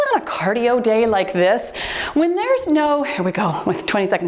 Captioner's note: timer beeps